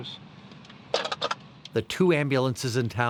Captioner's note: handset clatters